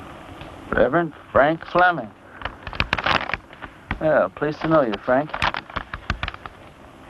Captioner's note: none